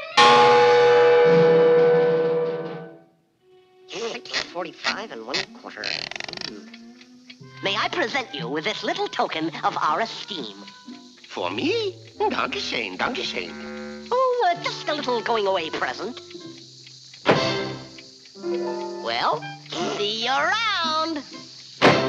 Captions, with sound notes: [helmet clangs] Six forty-five and one-quarter. [ticking] May I present you with this little token of our esteem. For me? Danke schoen. Danke schoen. Oh, uh, just a little going-away present. Well, see you around.